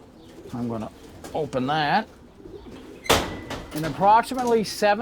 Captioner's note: gate clanking